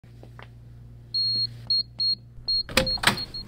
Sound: beeping

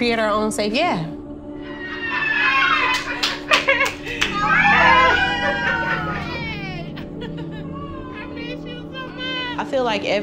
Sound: cheering, greetings

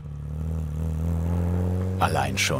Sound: full hum

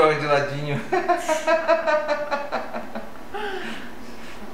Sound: laughs

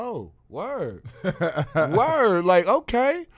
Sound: laughing

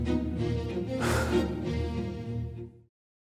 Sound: sighs

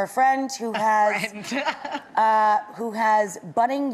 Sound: laughing

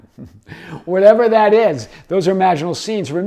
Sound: laughs

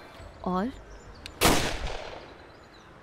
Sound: gun shot

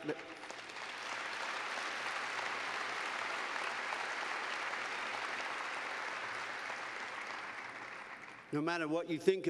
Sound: applause

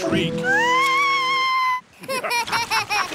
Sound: shrieks; laughter

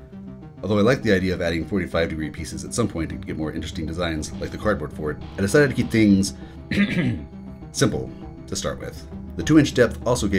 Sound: ahem

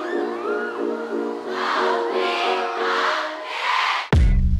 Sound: Thunderous MONBEBE cheering / Love.Me.A.Little

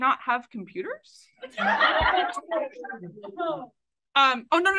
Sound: AUDIENCE laughs

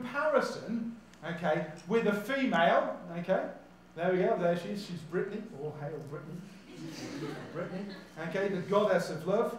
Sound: audience laughs

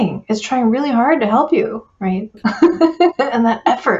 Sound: laughs

